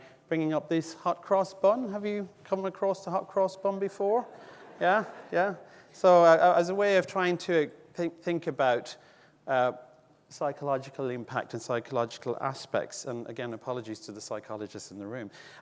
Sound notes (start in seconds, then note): 4.2 audience laughing